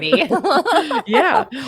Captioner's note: both laugh